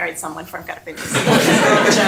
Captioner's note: laughter